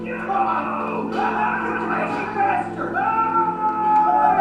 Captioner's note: excited screaming